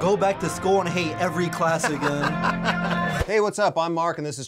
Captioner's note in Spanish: risas